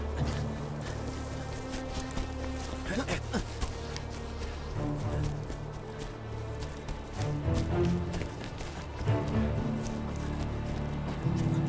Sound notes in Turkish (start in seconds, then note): 4.2 Nefes sesleri; 4.5 Müzik - Gerilim